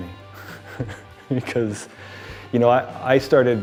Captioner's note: chuckles